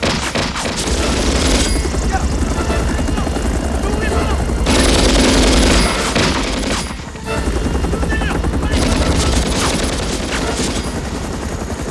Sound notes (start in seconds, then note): 1.7 Korean; 6.8 Korean; 8.7 gunfire Continues